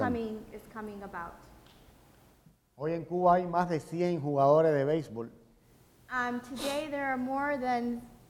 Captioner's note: speaking in Spanish